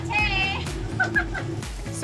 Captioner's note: laughs